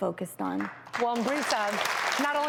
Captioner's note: clapping